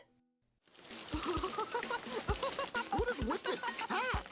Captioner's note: laughing